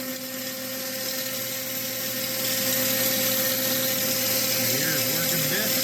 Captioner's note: buzzing